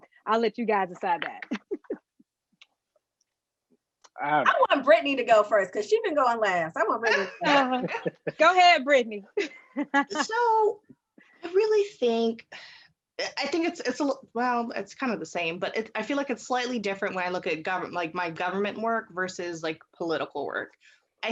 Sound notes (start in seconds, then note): 7.0 all laughing